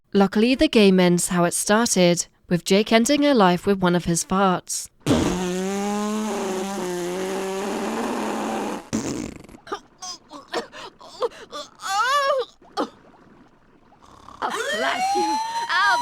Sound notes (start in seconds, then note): 10.0 fart